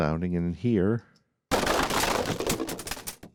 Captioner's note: crashing